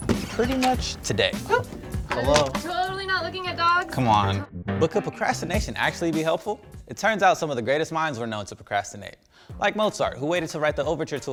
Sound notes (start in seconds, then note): 0.0 creaking; 1.4 yelping